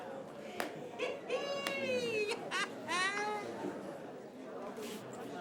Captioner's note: Doris cackles